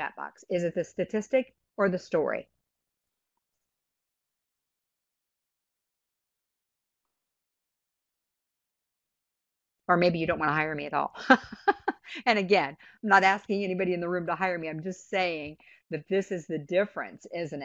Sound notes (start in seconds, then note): 10.0 laughs